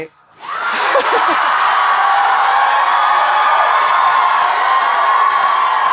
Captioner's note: audience cheering and applauding